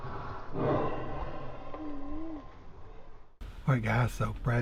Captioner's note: slow heavy breathing